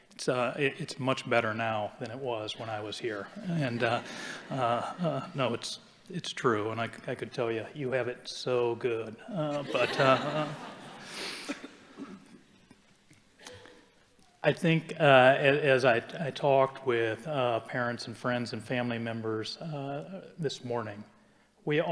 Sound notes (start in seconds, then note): 3.2 audience chuckling; 9.4 audience laughing